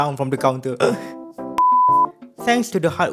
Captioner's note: beep